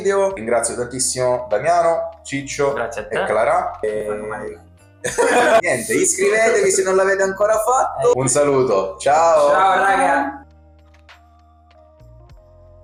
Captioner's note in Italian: risate